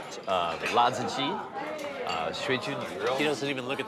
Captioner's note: speaks Chinese dialect